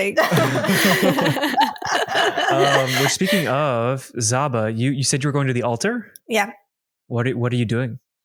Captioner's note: laughter